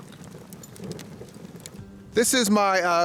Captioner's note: fire crackling